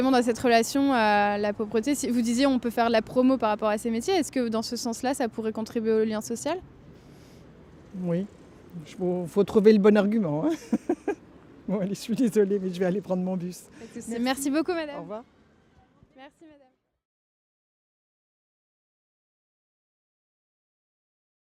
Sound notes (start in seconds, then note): 10.5 laughs